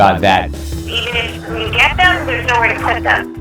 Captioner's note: voice Over Phone